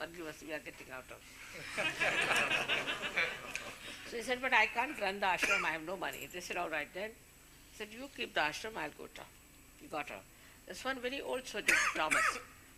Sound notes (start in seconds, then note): 1.5 laughter